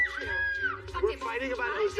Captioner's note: screams